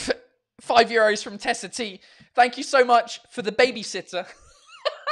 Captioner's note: laughs